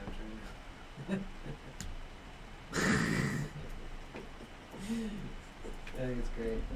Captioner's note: laughter